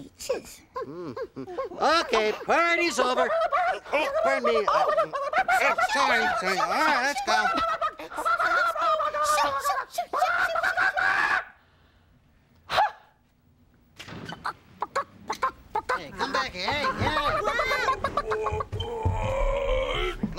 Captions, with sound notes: MMM. OKAY, PARTY'S OVER. ( clucking excitedly ) PARDON ME. SORRY, SORRY. SHOO, SHOO, SHOO! EXCUSE ME. SHOO, SHOO, SHOO! ( hen squawks one last time ) ( clucking ) HEY, COME BACK HERE. HEY, HEY! WHOA, WHOA!